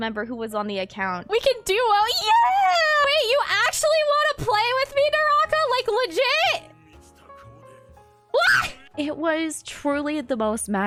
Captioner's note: screams